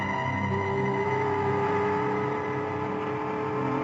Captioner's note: boat whistling